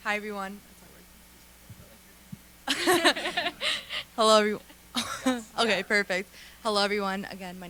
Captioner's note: laughter